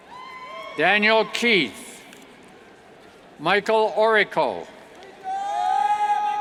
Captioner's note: cheers